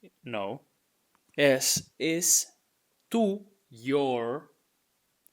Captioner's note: speaking in Spanish